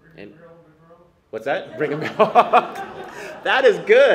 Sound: laughs

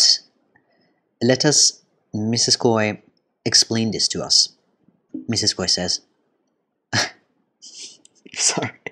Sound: burst of laughter

